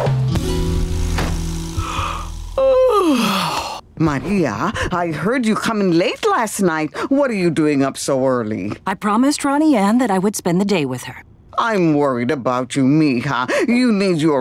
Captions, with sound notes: [yawning] Maria, I heard you come in late last night. What are you doing up so early? I promised Ronnie Anne that I would spend the day with her. I'm worried about you, mija. You need your rest,